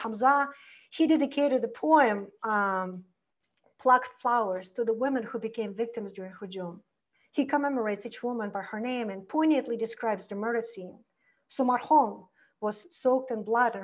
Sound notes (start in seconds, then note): 6.4 foreign language